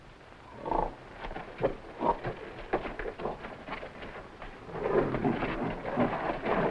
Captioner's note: footsteps echoing; gorilla grunting